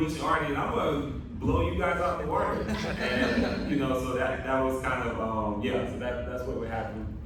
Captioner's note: laughter